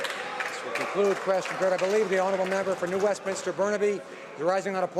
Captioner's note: some Applause